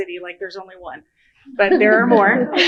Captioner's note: laughter